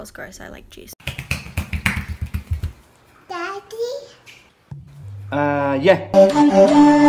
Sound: feet patter

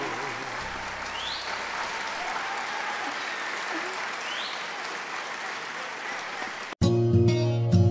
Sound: applause

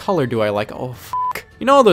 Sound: beep

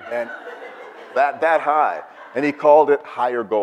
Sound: audience laughs

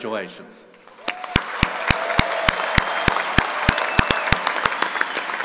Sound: cheering and applauding

